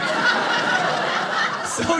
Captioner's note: audience laughing